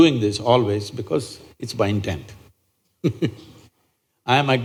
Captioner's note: laughs